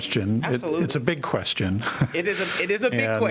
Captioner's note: laughter